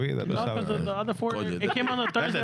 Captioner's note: speaking In Foreign Language